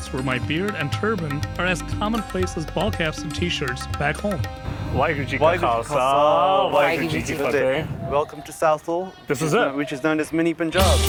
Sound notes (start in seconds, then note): 4.9 speaking foreign language